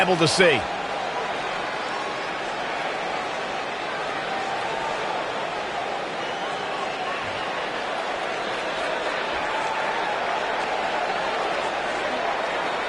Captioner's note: crowd boos heavily